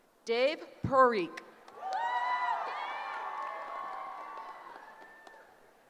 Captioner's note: cheering